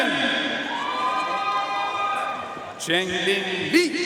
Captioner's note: audience cheering and applauding